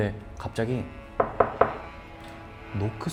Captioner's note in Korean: 똑똑똑